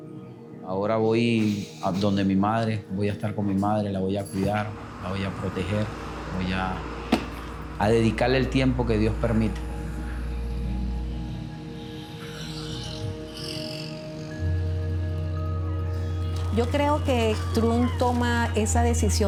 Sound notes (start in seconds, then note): 13.2 horns honking; 13.2 people cheering